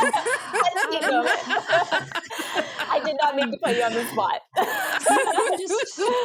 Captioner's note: group laughter